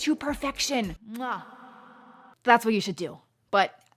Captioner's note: echoes